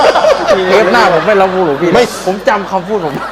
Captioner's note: laughing